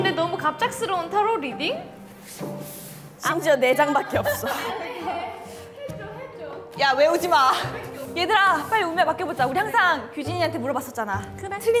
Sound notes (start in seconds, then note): 2.0 awkward shuffle sounds